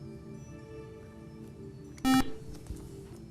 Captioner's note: buzzer